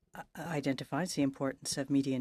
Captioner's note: speaking French